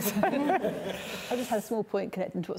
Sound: both laughing

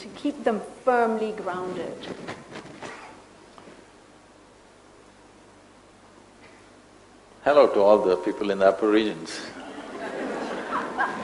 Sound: laughter

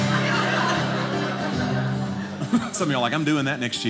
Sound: audience laughing

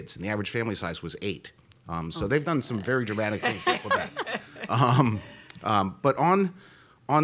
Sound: laughter

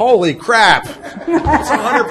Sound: laughter erupts

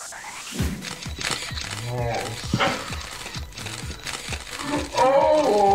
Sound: camera shutters clicking

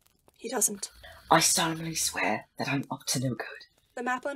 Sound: snoring

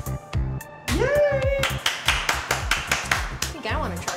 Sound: claps

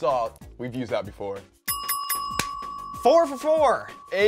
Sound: bell dings

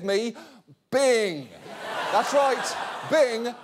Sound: audience laughing

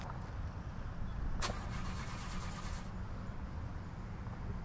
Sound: car not starting

